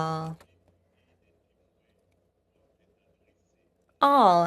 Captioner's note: speaking French